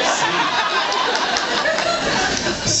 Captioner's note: laughs